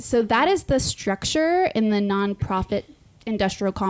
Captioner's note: none